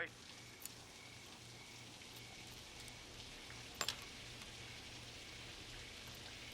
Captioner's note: shower running; crickets chirping